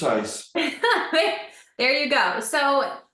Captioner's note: laughs